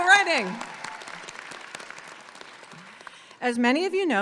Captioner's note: audience cheers and applauds